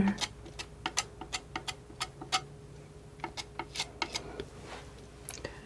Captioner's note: tapping